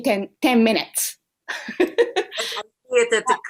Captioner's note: laughter